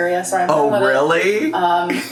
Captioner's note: laughs